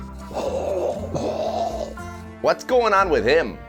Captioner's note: choking